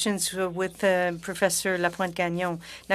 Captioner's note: speaking French